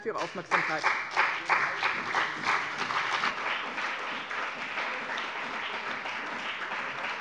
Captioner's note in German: Beifall bei dem BÜNDNIS 90/DIE GRÜNEN und der CDU